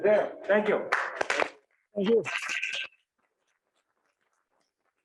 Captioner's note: audience clapping